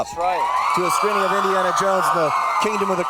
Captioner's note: audience cheering drowning the host out